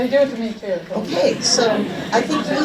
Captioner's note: audience laughs